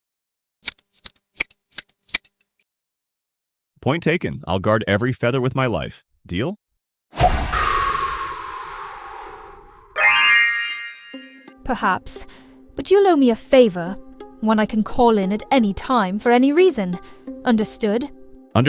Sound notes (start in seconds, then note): 0.6 scissors snipping; 7.1 soft magical whoosh; 9.9 final magical chime